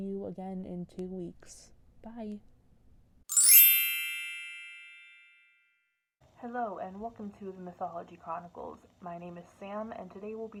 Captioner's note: bell sound